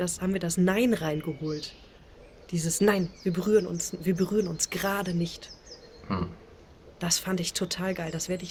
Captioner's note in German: räuspern